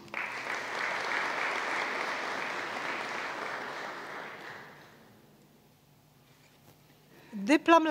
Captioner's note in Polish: oklaski